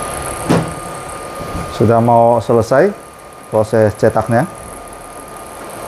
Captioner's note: printer machine noise